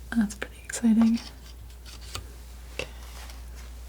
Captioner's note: scratching